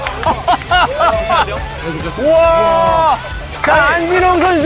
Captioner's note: he can't help but laugh